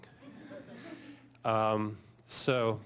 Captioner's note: audience laughing